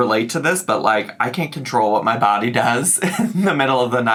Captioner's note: giggles